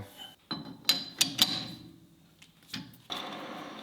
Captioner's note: machinery rattling; machinery whirring